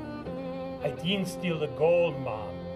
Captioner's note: Jamaican accent